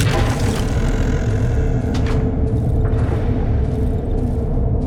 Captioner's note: door opens